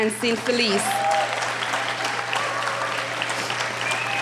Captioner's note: applauding